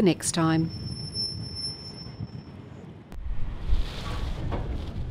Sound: metal squeaking

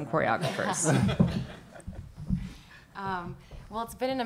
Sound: laughing

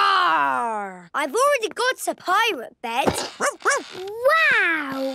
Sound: barking

